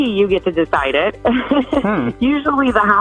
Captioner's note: she chuckles